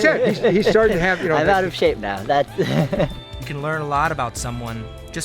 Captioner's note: laughs